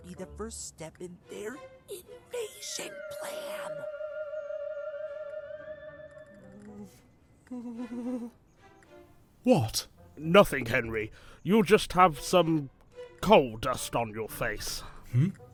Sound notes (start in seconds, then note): 7.0 henry whimpers